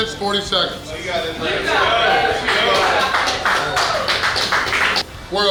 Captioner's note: cheering & Clapping